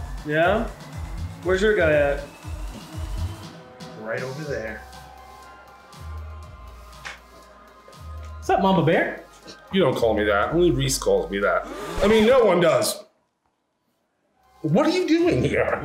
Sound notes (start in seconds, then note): 11.6 record scratches; 11.9 gasping